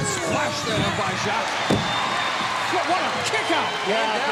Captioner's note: crowd stomping